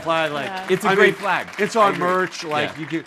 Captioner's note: audience applauding